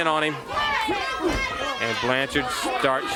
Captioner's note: crowd chatter